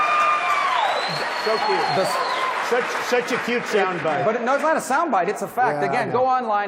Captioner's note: applause